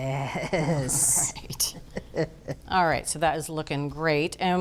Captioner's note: chuckles